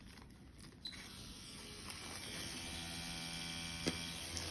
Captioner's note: machine whirring